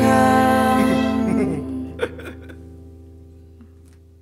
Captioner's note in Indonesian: tertawa